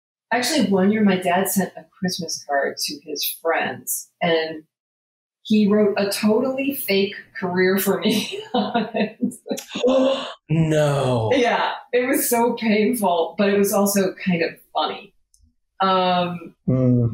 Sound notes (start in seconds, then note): 7.9 laughs; 9.6 gasps